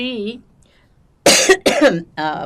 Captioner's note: coughing